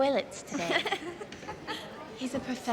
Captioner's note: girls laughing